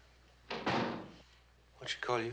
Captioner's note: door closing